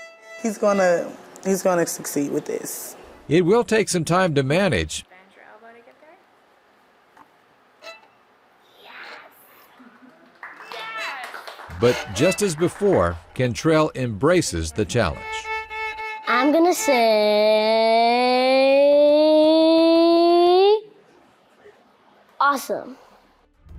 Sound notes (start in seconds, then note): 0.0 violin music; 7.8 violin music; 9.6 people clapping; 13.9 violin music